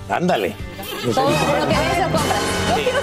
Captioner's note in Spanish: risas